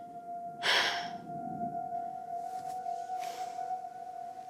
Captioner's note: Kara exhales